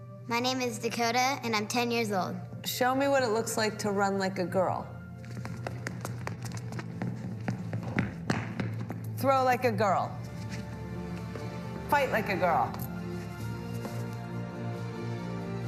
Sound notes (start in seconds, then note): 5.2 footsteps click-clacking; 12.9 gentle music